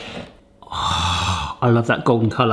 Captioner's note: groaning